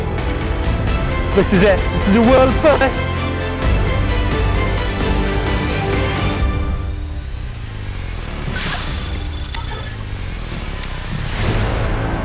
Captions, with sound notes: This is it. This is a world first! (electronic sounds)